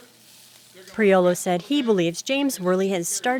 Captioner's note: voiceover